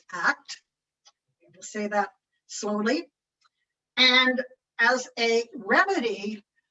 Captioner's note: none